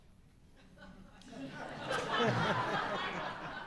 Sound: laughing

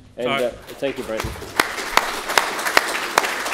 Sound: applause

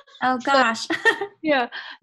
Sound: laughs

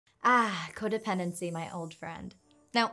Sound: chimes ring out

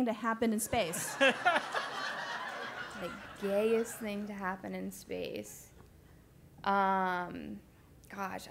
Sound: laugh

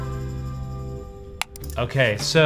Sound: tone chimes; mouse clicks

